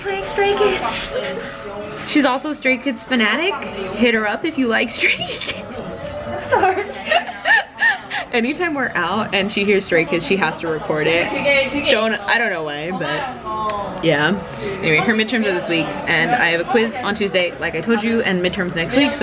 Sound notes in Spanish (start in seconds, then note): 6.4 se ríe